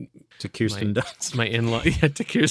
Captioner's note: laughter